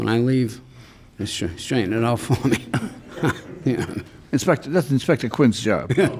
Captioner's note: chuckles